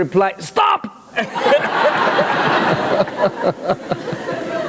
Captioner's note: laughter